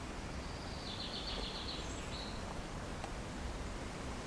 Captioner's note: birds Chirping